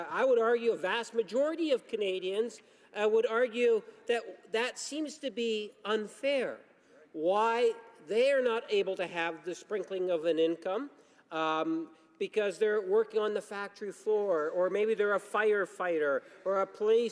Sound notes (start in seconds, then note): none